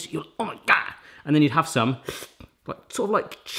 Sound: sips

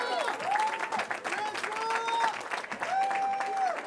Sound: cheering

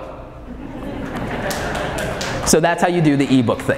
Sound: audience laughing

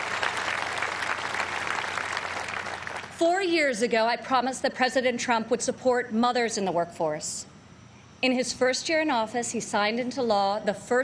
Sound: applause

